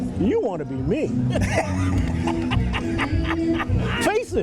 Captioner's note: laughing